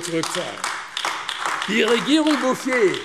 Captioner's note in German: Beifall AfD